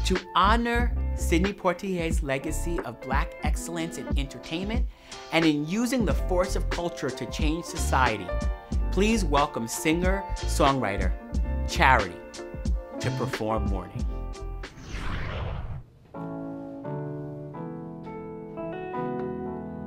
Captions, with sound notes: To honor Sidney Poitier's legacy of Black excellence in entertainment and in using the force of culture to change society, please welcome singer-songwriter, Charity, to perform "Morning". (whooshes) (gentle piano music)